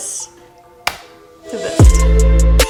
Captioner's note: hands clap; upbeat music